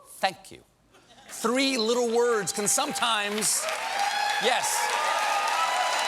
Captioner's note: cheers and applause